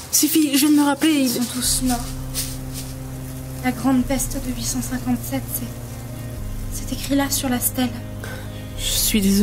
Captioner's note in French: voix blanche